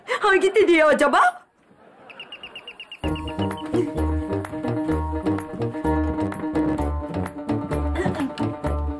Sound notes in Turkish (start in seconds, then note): 1.8 Kapı sesi